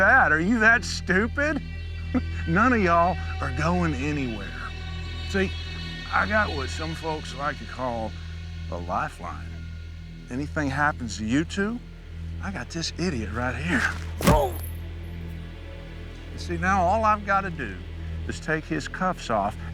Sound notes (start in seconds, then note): 13.7 foot thumping; 14.2 Joe grunting